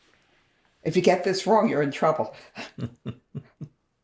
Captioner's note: laughing